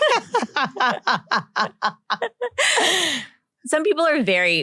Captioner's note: laughs